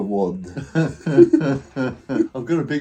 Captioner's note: both laughing